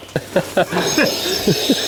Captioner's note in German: lachen